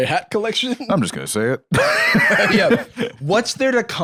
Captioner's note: laughs